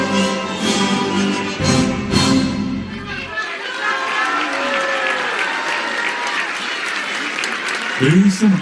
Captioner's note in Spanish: aplausos